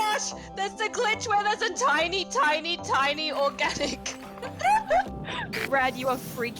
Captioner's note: laughs